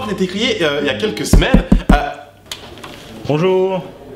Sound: knocking on door

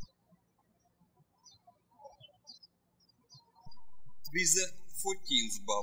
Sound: birds chirping

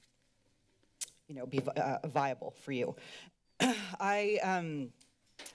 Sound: clears throat

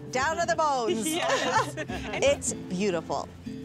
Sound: laughing

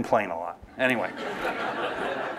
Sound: laughter

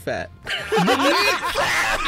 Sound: all laughing

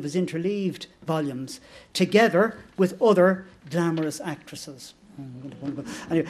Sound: laughter

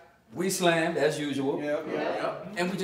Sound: crowd

